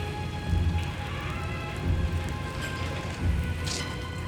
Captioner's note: door clanging